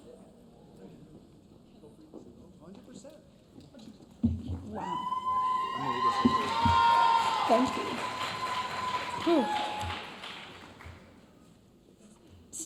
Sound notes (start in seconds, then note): 4.8 audience cheering; 9.8 audience applauding